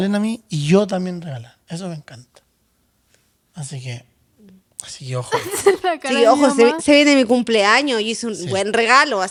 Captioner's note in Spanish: risas